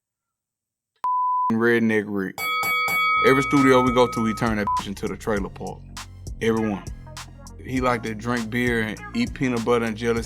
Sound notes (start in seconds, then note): 2.4 bell dings; 2.4 beep